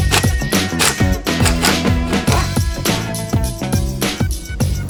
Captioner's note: tools working